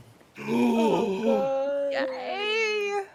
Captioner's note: people gasping